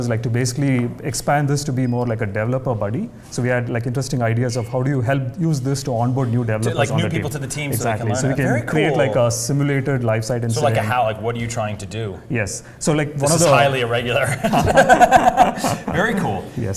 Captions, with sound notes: >> Perfect, and we have a lot of interesting ideas to expand on this. >> How to make it better and better, of course, of course. >> Like lifestyle issues. >> You wouldn't be a developer if you weren't. >> [LAUGH] Another interesting scenario we have is to basically expand this to be more like a developer buddy. So we had interesting ideas of how do you use this to develop-